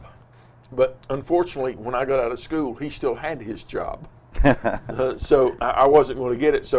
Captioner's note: laughs